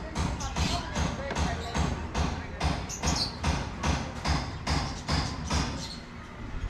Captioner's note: hammering noises